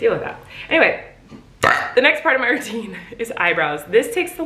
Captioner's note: belching